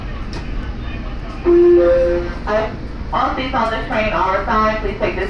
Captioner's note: female announcement